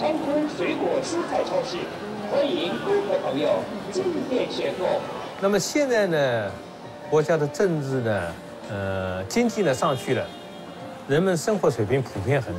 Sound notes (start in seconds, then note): 5.4 speaks in Chinese language